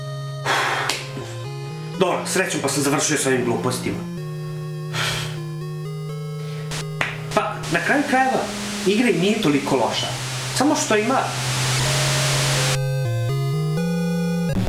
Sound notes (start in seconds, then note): 11.5 static